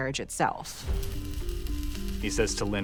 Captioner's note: welding torch sparking